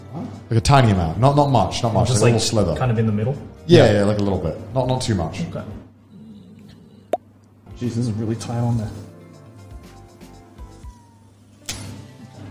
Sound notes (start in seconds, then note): 7.1 popping noise